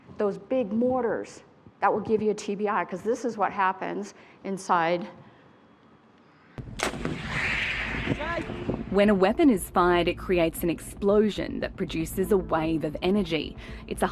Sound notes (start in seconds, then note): 6.6 shoulder-fired weapon bangs; 9.0 voiceover